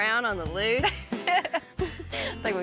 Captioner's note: laughs